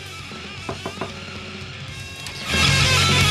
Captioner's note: door knocking; heavy metal music